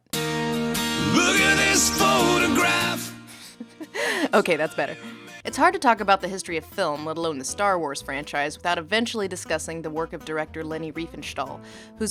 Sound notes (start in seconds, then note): 3.3 chuckles